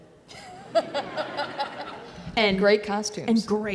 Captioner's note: audience laughs